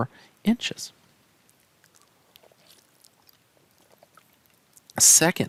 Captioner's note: no Speech Detected